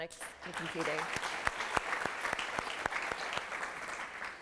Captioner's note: applause